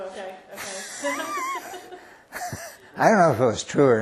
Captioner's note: laughter